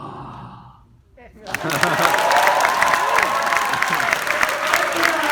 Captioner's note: audience applauding